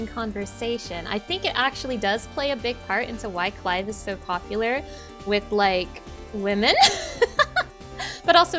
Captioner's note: laughing